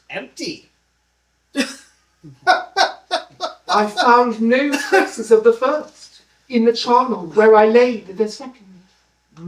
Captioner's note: unhinged laughter